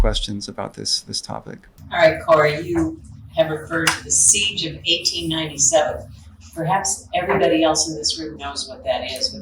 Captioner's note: audience member speaking